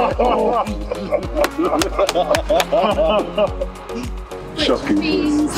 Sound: laughing; clapping

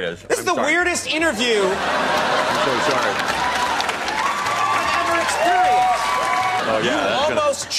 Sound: crowd laughter

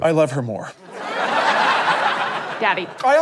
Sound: audience laughter

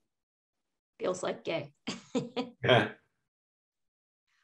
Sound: laughs

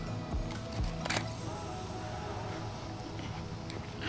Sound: shutter closes

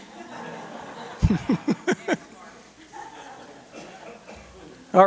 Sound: laughter

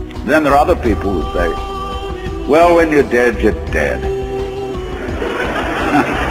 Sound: laugh's audience

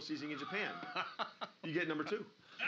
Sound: laughing

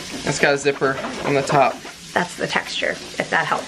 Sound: scratching the bag

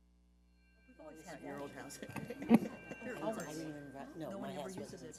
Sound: people chattering

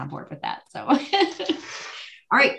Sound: laughs

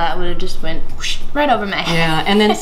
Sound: whooshing sound

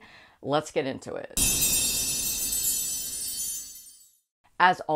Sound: loud Chimes

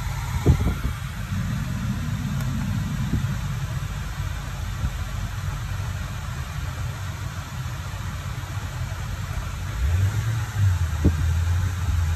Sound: blower Fan

